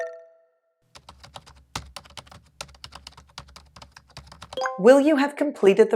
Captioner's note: typing sound